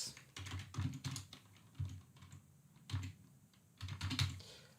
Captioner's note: keyboard clicking